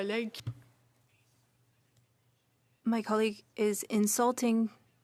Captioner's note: speaking French